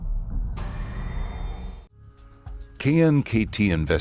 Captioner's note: humming